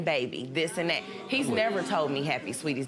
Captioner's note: audience murmurs